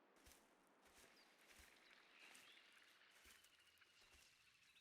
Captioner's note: birds tweet